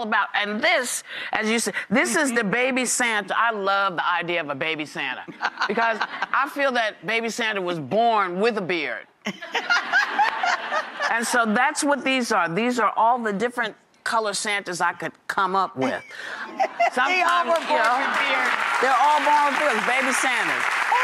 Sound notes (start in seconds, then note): 9.4 audience laughs; 17.1 audience applauds